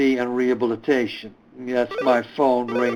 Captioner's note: telephone ringing